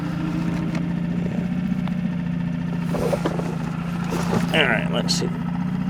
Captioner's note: boat whirring